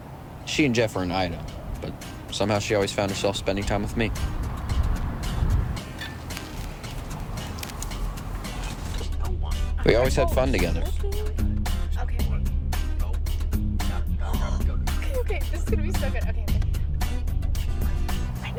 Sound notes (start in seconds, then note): 4.3 upbeat music; 13.9 gasps; 17.4 Jack faintly speaking